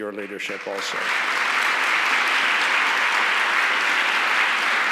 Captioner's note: audience applauds